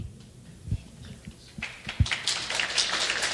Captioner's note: clapping